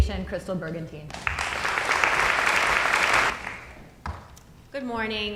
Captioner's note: audience applauding